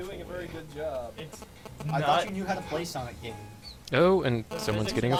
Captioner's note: 2000s cell phone interference noise